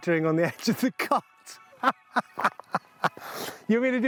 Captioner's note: laughing